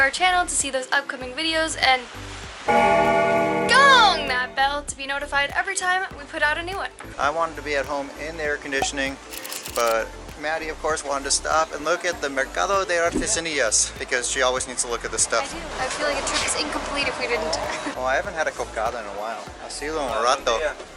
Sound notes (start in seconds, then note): 2.6 bell ringing